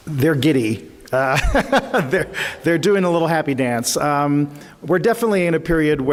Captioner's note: chuckles